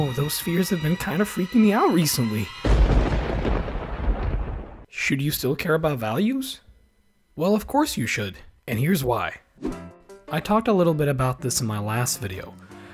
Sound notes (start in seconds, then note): 2.6 thunder